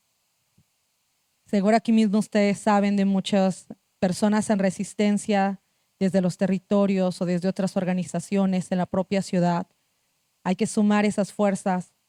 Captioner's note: speaking Zapotec language